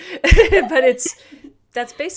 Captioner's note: laughter